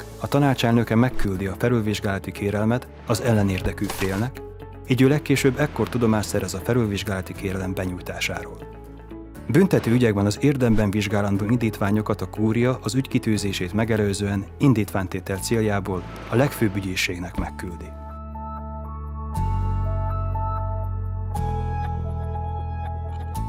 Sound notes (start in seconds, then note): 3.6 papers rattling